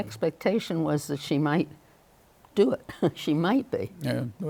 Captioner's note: chuckles